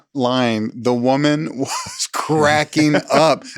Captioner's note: laughs